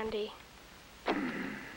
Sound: grunt

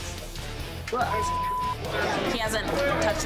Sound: loud chatter

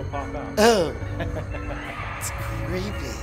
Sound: laughs

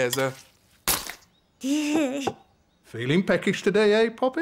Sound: giggles

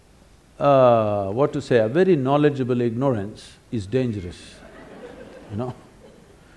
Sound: laughter

